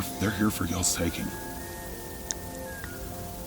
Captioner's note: elk bugle